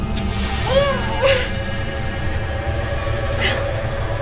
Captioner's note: grunting